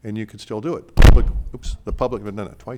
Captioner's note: mic pops